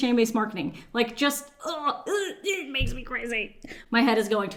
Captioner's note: groaning